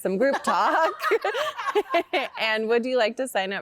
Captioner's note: laughter